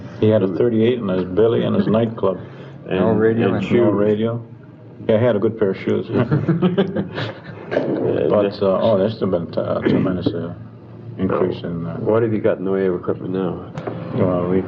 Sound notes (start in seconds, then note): 6.1 laughing